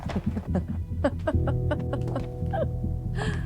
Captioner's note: laughing